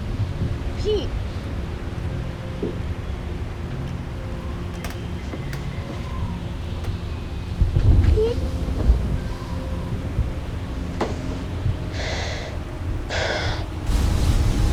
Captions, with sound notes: PETE! PETE? [sighs] - IT'S BEEN OVER AN HOUR SINCE